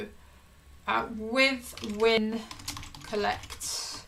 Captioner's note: keyboard clicking